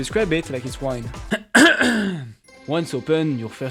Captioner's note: coughs